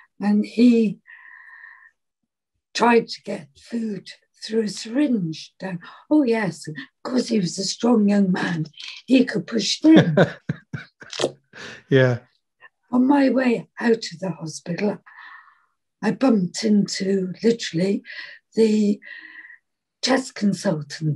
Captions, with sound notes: and he tried to get food through a syringe. Oh yes, course he was a strong young man. He could push tin. - (laughs) Yeah. On my way out to the hospital, I bumped into literally the test consultant,